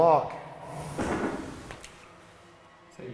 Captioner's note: thud